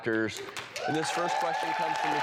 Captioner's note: applause